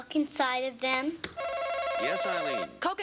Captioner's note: buzzer buzzes